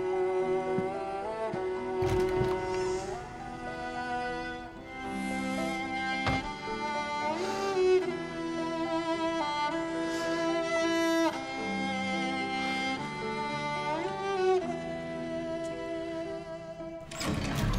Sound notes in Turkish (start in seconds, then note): 2.0 Kapı açılma sesi; 17.0 Kapı açılma sesi